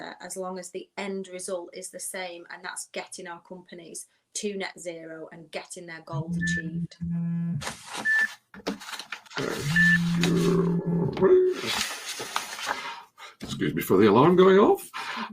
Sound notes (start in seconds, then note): 7.2 phone ringing